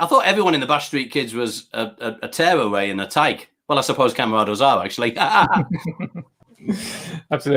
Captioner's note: laughs